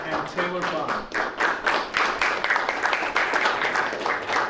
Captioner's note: clapping